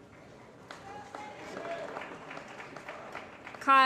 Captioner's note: applause